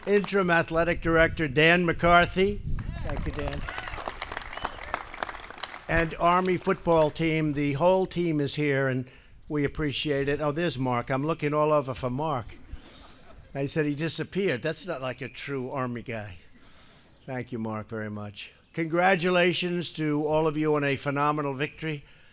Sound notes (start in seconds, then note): 4.3 applause; 12.5 laughter